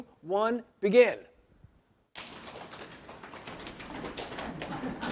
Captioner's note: audience slapping legs